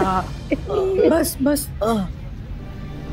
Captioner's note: Asha sobbing